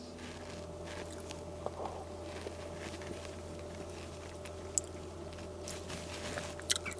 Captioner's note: cautious slurping sounds